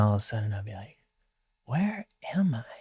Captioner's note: whispering quietly